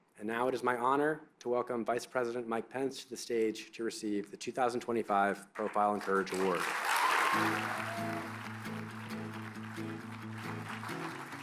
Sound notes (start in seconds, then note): 5.5 applause